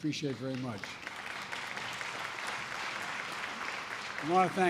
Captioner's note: applause